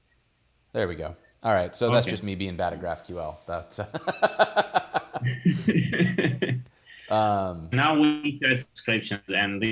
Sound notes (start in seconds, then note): 3.8 laughs